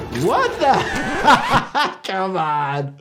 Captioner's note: doctor laughing